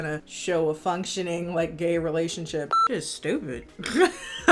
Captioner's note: beep